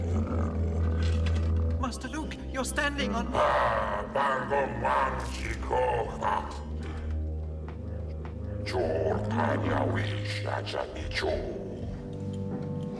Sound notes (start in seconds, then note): 3.7 Jabba Speaking Huttese; 8.4 Speaking Huttese